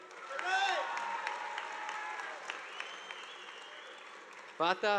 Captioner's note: audience applauding